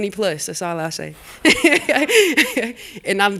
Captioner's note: laughter